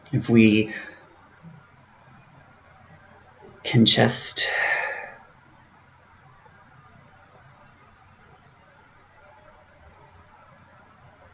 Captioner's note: pause